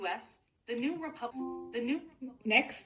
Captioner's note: device chimes